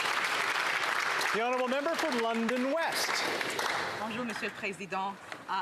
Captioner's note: some Applause